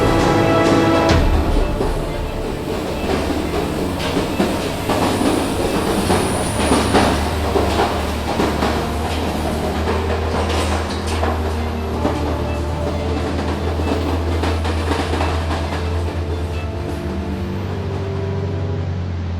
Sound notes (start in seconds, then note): 4.1 old train car on track sounds